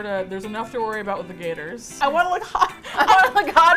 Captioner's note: laughs